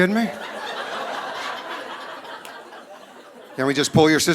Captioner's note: audience laughing